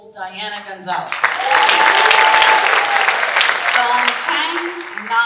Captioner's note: audience cheering and applauding